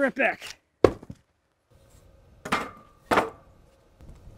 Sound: log thumps

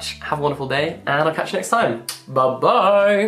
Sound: kissing sound

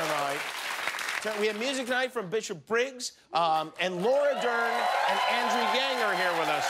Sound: cheers and applause

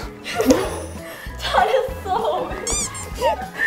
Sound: hahahahahaha

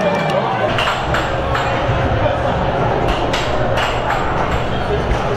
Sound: air hockey puck rattling

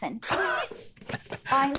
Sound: laughs

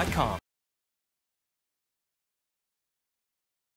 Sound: silence

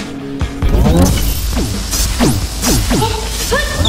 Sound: grunt

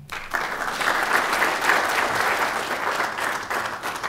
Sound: applause

